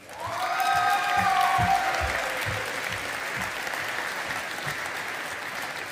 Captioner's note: audience applauding